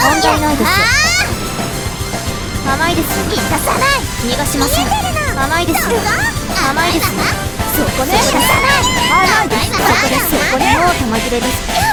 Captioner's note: crying